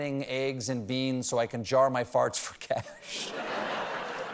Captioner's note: laughter